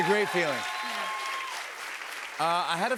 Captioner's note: cheers and applause